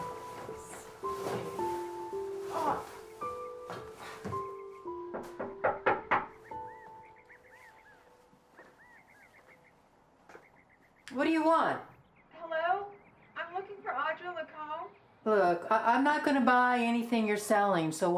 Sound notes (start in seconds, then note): 2.9 groans; 5.0 knocking; 8.3 birds chirping